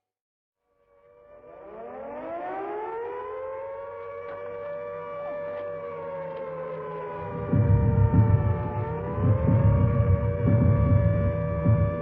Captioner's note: sirens